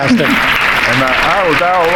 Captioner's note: audience applauding